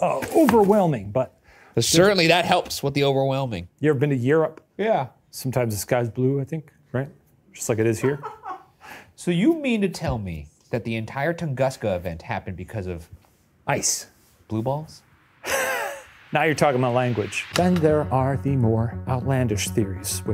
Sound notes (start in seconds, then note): 8.0 someone laughs; 15.3 wheezes